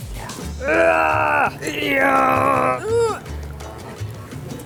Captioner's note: grunting